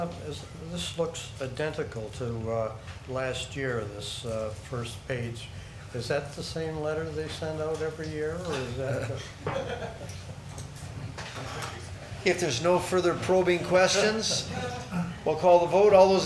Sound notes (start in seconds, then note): 8.8 chuckles